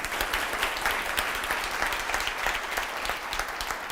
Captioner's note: applause